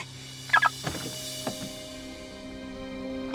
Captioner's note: car beeping